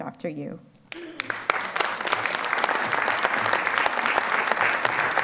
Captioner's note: audience applause